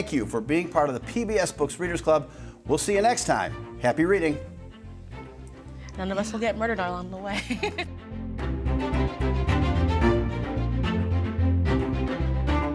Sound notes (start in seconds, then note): 7.2 laughing; 7.9 gentle upbeat music